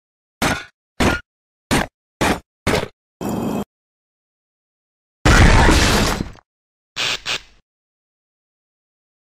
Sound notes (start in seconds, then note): 0.5 stomping, whirring; 5.1 Chica scream as she falls through the roof; 6.7 glitching